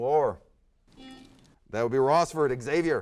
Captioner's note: buzzer sounds